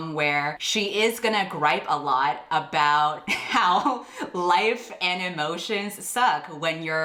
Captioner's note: laughs